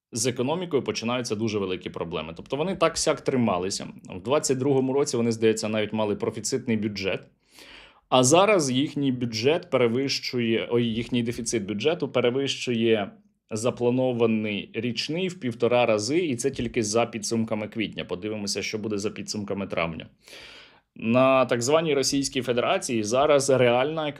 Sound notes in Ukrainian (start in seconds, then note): 7.5 сопіння